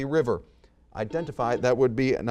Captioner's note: buzzer beeps